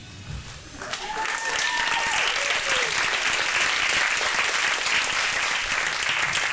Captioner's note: audience cheering and clapping